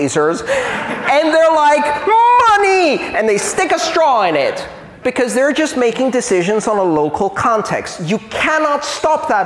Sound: laughter

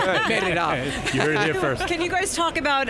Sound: panel laughing

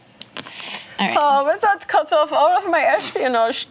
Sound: imitates German accent

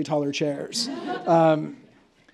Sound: laughter

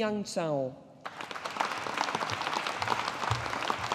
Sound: audience applauding

